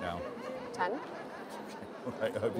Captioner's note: laughs